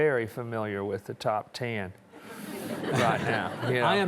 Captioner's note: audience chuckling